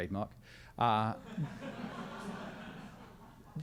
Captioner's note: crowd laughs